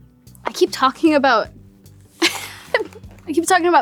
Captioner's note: giggles